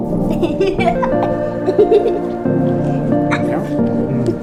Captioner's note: child laughing; gentle music continues